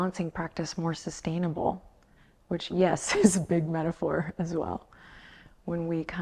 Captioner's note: laughs